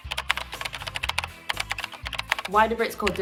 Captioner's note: keyboard clacking